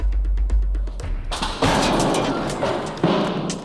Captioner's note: shelf crashes